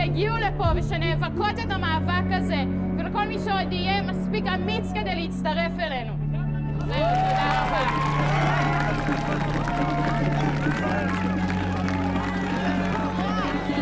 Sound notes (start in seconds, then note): 6.7 crowd cheering